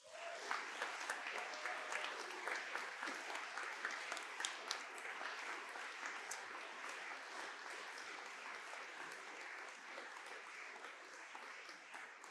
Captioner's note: applause